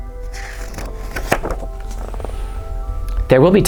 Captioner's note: page turns